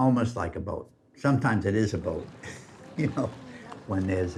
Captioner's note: chuckles